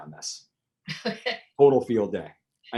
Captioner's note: laughs